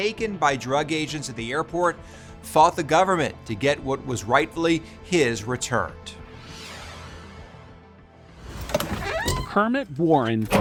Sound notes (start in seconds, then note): 6.3 graphics whoosh; 8.4 door creaks